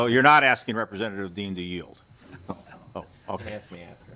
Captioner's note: laughter